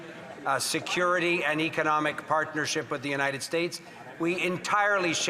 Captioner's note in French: voix de l'interprète; voix de l'interprète